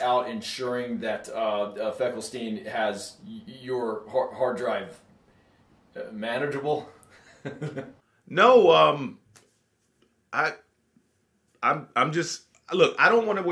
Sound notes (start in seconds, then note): 7.1 laughs awkwardly